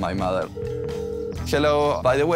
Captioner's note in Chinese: 電話響起